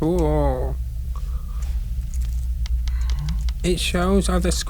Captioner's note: buttons clicking